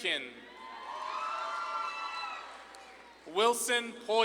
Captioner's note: audience claps and cheers